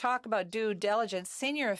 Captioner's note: speaking in French